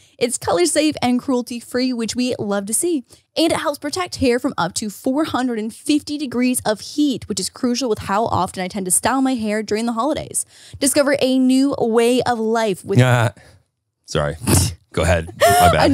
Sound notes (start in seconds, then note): 13.0 laughs